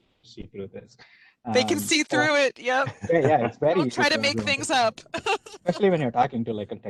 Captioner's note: laughs